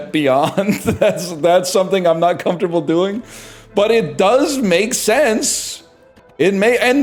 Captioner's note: laughing